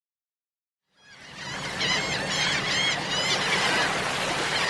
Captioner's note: seagulls squawking